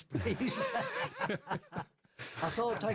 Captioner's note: laughter